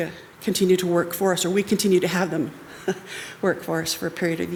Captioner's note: chuckles